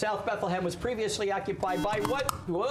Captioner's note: buzzer